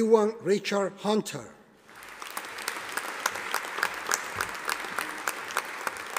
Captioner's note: audience applauding